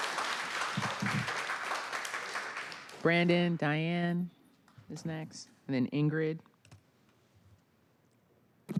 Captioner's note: applause